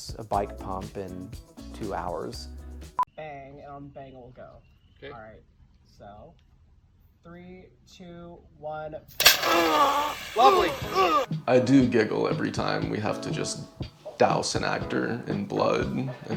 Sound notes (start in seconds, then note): 9.2 liquid squirts; 9.7 actor grunts